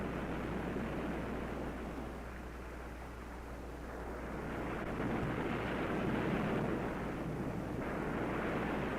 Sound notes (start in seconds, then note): 3.8 waves crashing